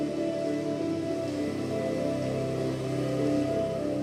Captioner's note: sizzling sound